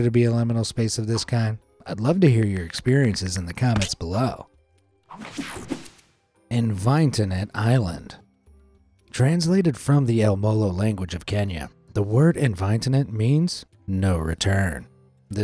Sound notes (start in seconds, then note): 5.4 techno sound effect